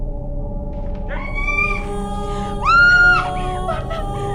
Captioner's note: Fre Screaming